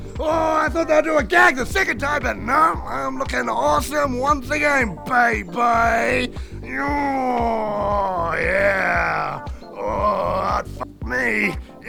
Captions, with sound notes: Oh I thought they'd do a gag the second time but no I'm looking awesome once again baby! *grrrrrrr* yeah... ooh I'd f*** me!